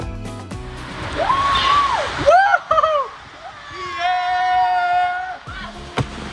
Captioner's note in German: schreit